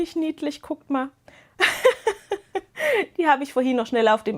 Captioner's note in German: Gelächter